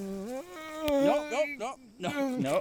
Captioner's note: Keith groaning